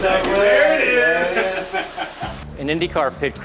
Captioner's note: laughing